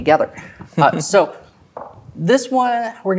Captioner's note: chuckles